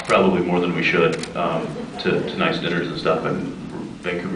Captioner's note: scattered laughs